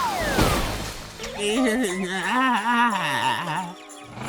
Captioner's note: groaning